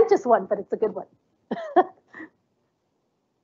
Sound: laughs

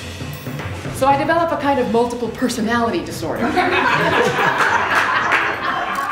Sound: audience laughter

